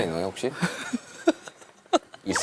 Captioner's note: haha